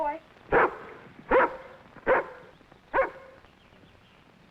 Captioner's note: dog barking